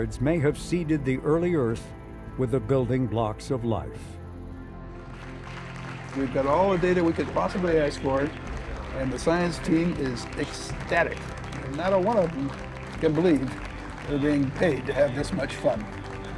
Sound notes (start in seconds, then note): 5.2 team clapping